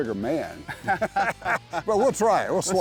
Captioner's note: laughter